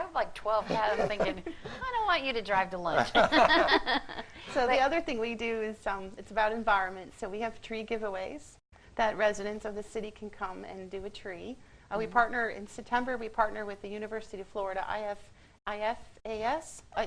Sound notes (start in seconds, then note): 3.0 laughing